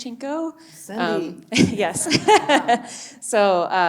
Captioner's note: chuckling